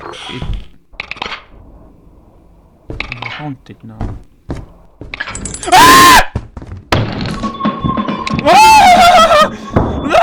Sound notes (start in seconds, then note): 5.7 terrified screaming